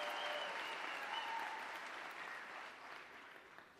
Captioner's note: applause